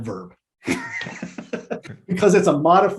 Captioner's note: laughs